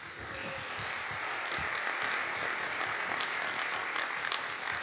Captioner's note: audience clapping